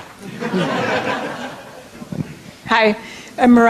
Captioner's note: audience laughter